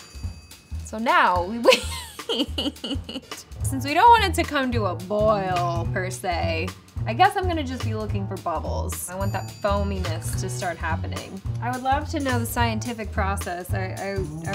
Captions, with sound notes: So now we wait. [laughs] Since we don't want it to come to a boil per se, I guess I'm gonna just be looking for bubbles. I want that foaminess to start happening. I would love to know the scientific process